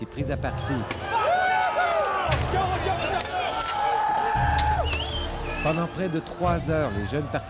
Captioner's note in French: cris des partisans